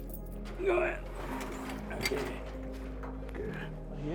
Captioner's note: grunting